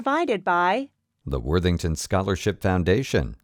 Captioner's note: voiceover